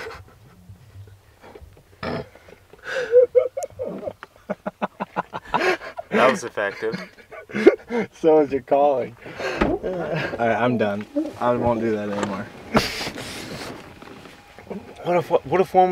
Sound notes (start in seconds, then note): 0.2 laughing; 6.8 laughing